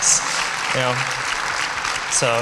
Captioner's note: applause